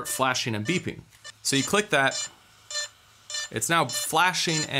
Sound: beeping

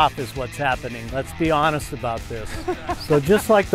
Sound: laughing

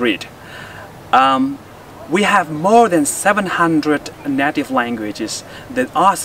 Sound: ehm

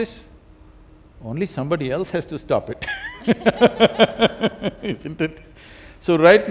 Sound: laughter

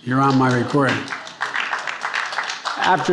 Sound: attendees applauding

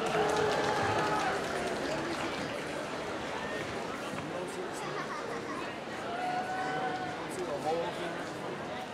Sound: applause

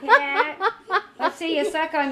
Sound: laughing

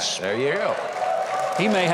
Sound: audience cheering

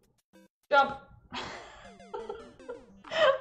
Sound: laughs

